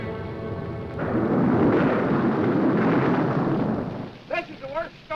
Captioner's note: thunder roaring